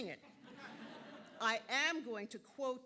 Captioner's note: audience laughing